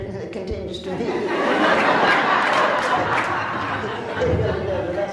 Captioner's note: laughs